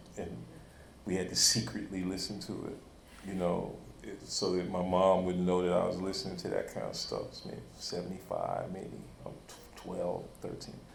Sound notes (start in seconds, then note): none